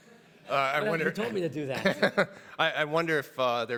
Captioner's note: everybody laughs